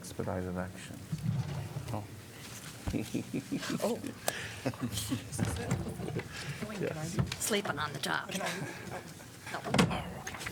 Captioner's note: laughter